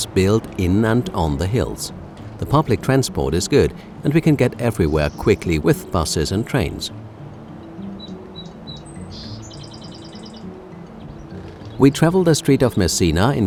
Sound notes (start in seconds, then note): 7.9 birds chirping